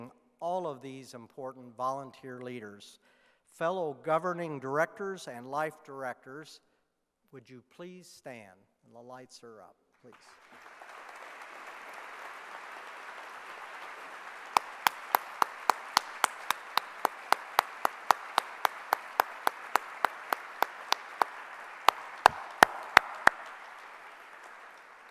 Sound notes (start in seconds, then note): 10.1 clapping